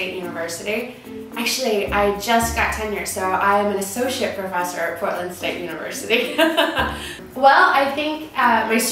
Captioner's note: laughs